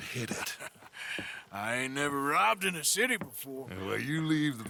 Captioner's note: laughs